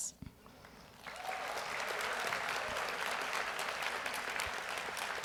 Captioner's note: audience applauds